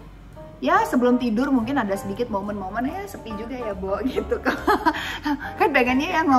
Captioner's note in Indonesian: Luna laughs